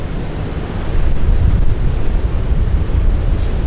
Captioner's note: wind